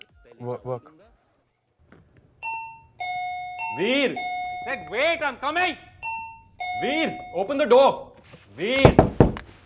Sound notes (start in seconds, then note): 2.4 doorbell rings; 8.7 knocks